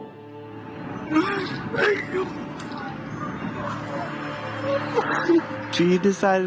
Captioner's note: crying